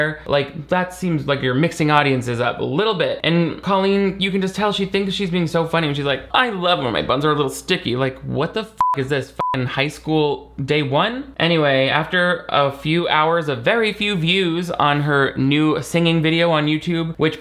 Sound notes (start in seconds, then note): 8.8 beep